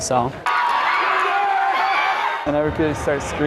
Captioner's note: crowd noise